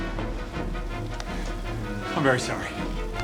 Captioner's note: none